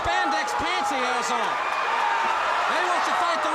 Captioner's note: crowd cheering